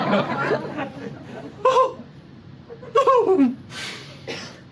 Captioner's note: audible sob